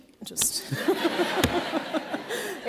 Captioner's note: laughter